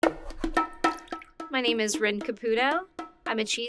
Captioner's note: mid-tempo hand drum music; water drips